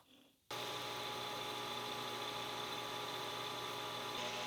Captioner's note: lathe whirring